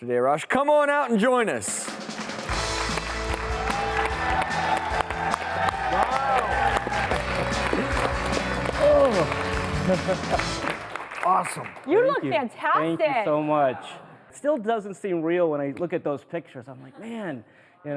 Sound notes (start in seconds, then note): 1.7 upbeat music; 2.0 audience applauding